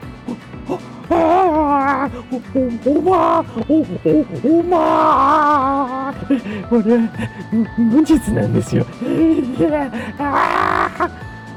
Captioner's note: screaming